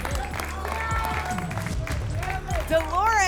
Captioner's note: applause and cheering